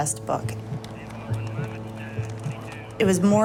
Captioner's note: people talking on radio